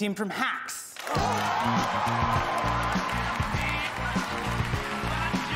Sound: cheering

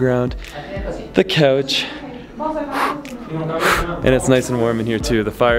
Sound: blowing

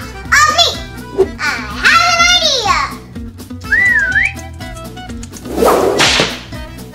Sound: whistles; whip cracks

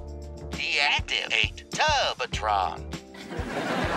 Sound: recorded voice

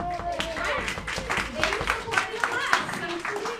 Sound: applauding

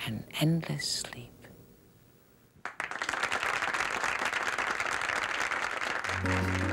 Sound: applause

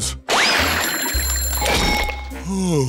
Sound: ringing

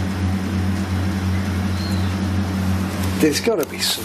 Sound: whistling

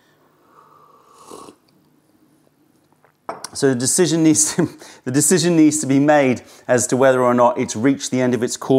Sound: sips tea

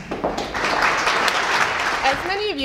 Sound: applause

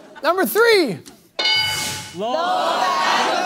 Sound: bell dings

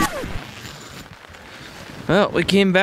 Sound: zipper zipping

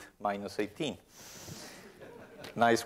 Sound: laughter

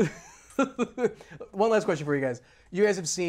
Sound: laughs

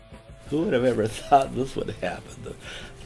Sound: laughing

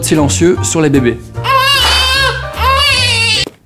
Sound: baby crying loudly; vibrate

